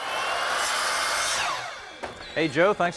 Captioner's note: saw blades cutting wood